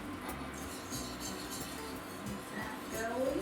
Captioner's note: scraping